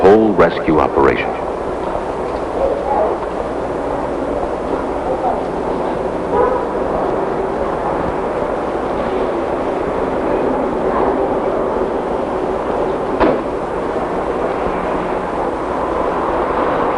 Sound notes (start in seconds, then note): 1.8 traffic noises and voices